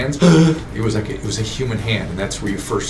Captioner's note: gasps